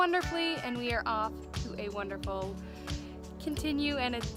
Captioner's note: deep breath